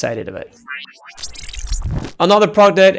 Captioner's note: metallic beeping